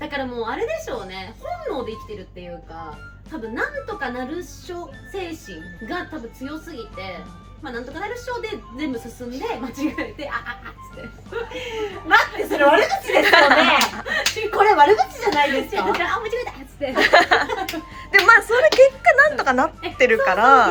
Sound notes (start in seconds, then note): 10.8 laughs; 13.6 laughs; 16.8 laughs